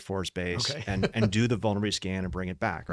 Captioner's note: laughs